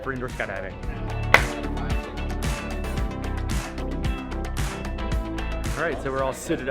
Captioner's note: upbeat pop music; helmet shutting